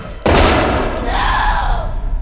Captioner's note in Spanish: bang